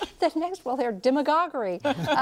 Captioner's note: laughter